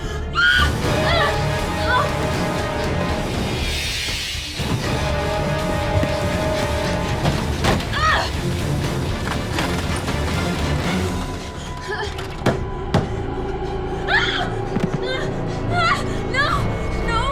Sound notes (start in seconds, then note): 0.3 screams; 7.7 yells; 9.8 door creaks open; 12.7 pounding; 14.1 screams